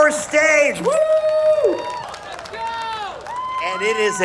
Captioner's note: audience cheering